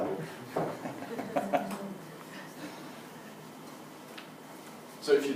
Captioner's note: laugh